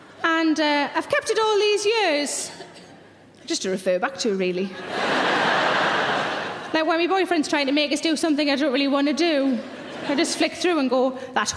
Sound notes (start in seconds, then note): 4.8 audience laughing